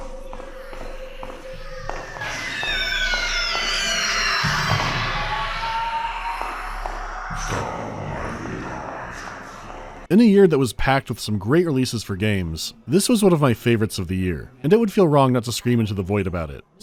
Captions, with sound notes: [hissy gibberish and ear-piercing screeching] [deep, resonant voice speaking otherworldly language] In a year that was packed with some great releases for games, this was one of my favorites of the year, and it would feel wrong not to scream into the void about it.